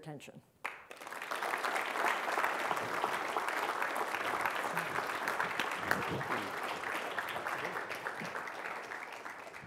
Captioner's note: applause